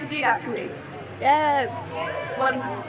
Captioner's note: crowd Cheers